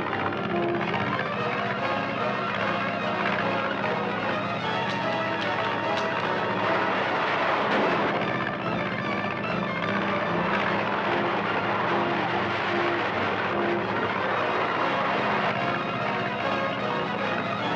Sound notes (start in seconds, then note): 4.8 gun clicks; 7.7 gun bangs; 9.7 dramatic orchestral music